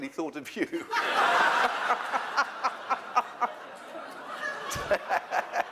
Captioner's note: laughter